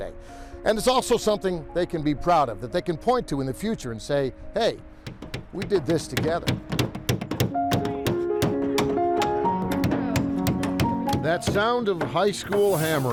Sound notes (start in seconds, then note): 5.0 hammers banging; 6.5 peaceful music